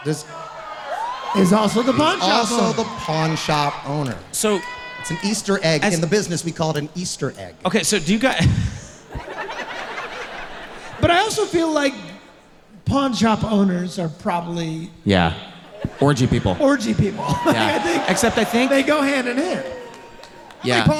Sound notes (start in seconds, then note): 9.0 laughs; 9.4 audience laughing; 15.1 laughs